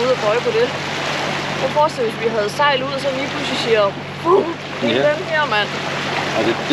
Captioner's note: wrooom